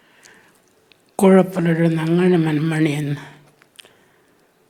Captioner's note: speaking Anmatyerr